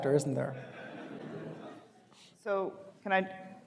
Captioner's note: audience laughing